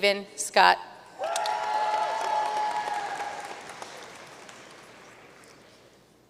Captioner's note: audience cheering and applauding